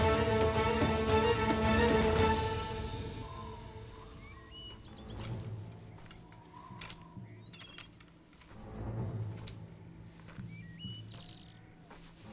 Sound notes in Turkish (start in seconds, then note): 4.6 Kuş cıvıltısı sesleri